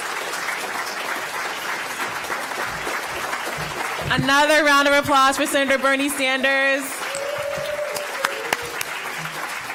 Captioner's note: applause